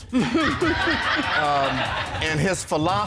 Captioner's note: audience laughing